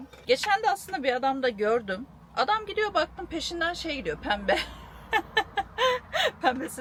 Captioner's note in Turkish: kahkaha